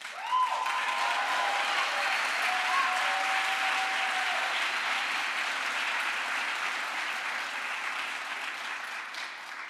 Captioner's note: crowd applause